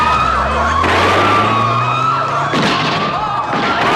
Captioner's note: gunshots, screaming; gunshot, tires screech